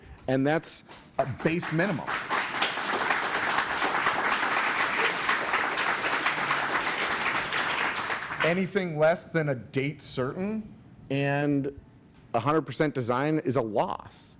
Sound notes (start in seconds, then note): 3.1 applause